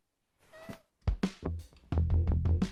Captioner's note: Joobie meows; موسيقى مخدرة